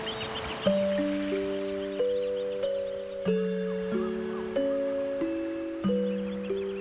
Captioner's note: sonidos de olas